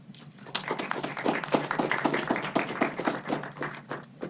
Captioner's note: clapping